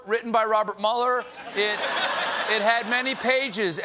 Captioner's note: laughter